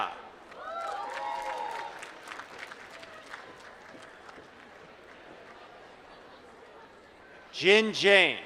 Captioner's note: applause